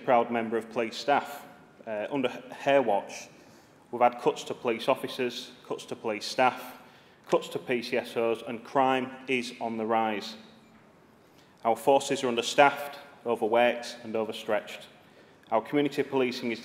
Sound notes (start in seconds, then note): none